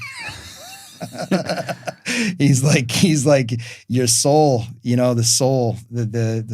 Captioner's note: both laughing